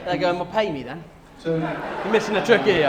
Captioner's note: laughter